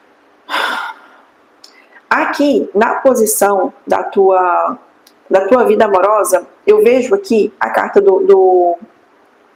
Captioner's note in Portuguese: suspirando